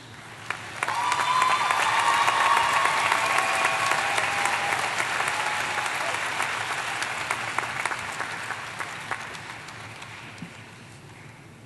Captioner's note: applause